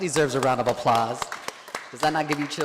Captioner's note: board members clapping